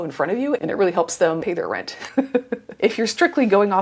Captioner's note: laughs